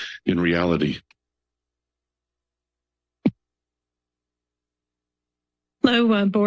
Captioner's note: silence